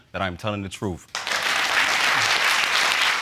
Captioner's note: audience applauds